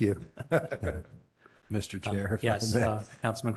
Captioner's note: laughter